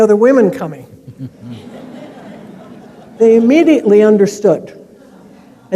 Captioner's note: laughter